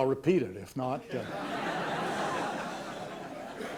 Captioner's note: laughter